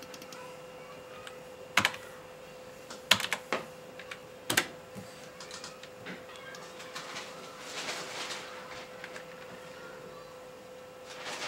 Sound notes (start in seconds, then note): 1.5 keys clack, mouse clicks